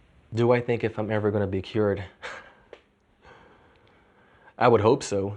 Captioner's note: chuckles